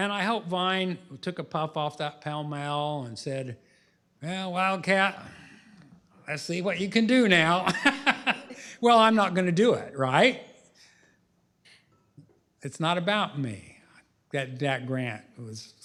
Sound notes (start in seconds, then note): 7.6 laughs